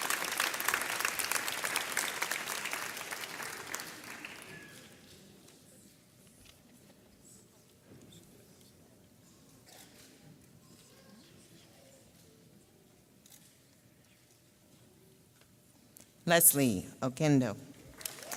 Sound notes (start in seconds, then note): 0.0 audience applauds; 10.0 camera clicks